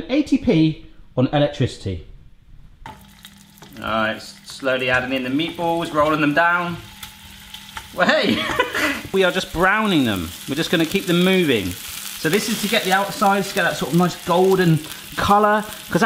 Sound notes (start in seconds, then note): 3.0 sizzling; 8.0 laughing